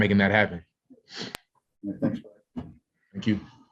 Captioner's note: sniffs